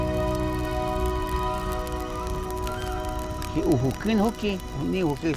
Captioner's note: flames crackling; speaking Awajún